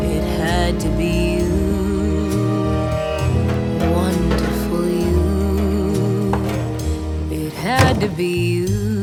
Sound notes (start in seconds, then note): 7.5 slam